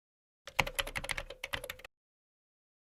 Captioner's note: typing